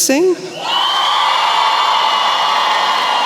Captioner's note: cheering